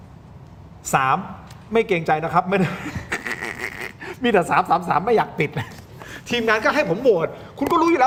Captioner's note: laughs